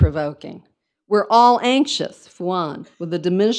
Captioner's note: speaks in foreign language